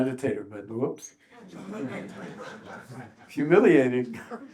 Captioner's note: audience laughs